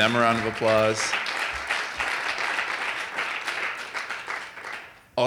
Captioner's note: audience applauding